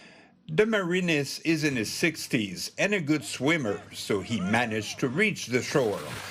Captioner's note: shouting